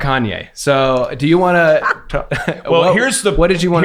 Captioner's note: laughs